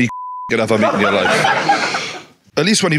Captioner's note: audience laughing